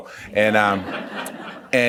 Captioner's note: laughs